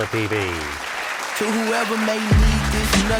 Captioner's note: applause